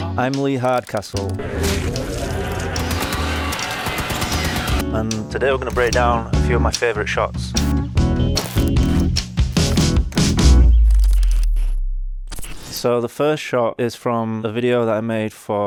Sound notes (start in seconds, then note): 1.3 creatures growling; 1.6 gun booming; 7.6 upbeat music